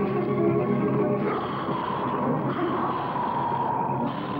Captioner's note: growling